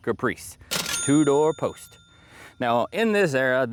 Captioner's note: bell Ringing